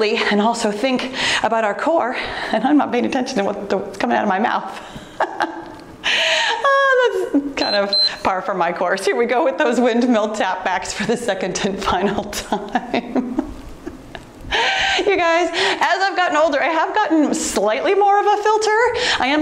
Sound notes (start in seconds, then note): 4.8 soft laughter; 7.6 timer beeps; 12.5 laughing cheerfully